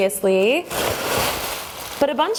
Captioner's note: bubble wrap crinkles